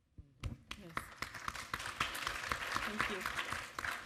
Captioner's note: audience applaud